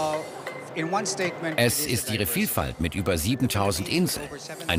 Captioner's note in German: englisch